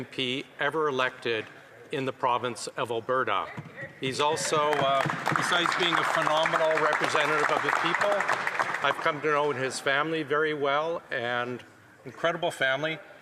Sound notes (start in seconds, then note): 9.7 some Applause